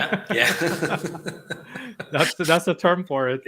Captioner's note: laughing